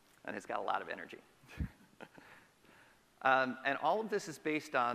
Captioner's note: chuckles